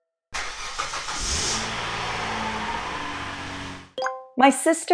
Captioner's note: car engine